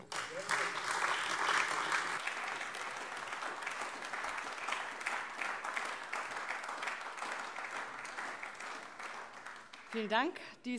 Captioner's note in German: Beifall AfD